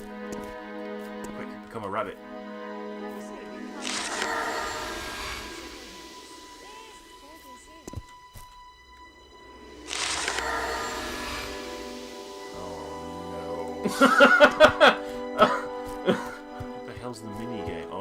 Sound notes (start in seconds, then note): 13.8 laughs